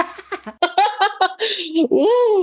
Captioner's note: laughs